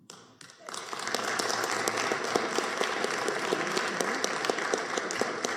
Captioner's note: applause